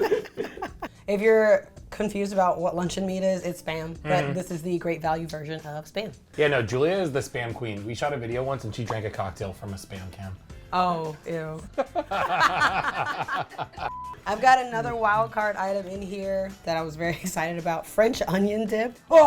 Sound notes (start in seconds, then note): 0.0 both laugh; 11.7 both laugh